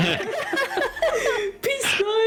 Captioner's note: laughter; giggle